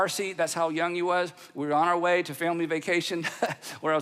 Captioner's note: laughs